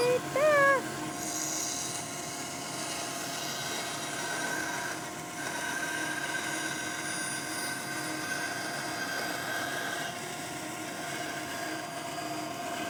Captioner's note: sawing